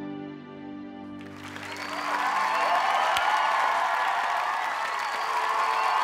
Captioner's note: cheering and applause